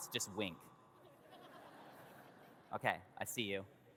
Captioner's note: audience laughs